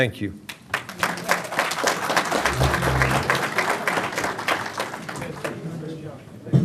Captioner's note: applause